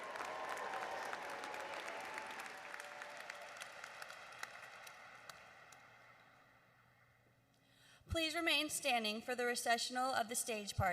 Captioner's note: applause